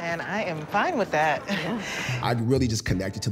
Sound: nervous laughter

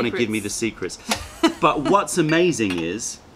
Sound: laughter

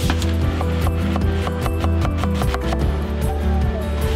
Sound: knife chopping

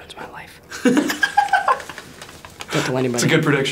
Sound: Asher laughs

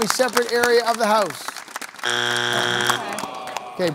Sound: buzzer sounds

